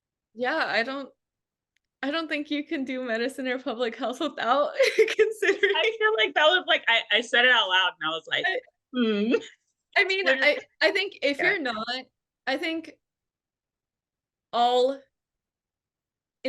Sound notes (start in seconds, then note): 4.8 laughs